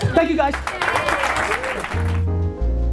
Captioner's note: audience cheers and applause; jazzy music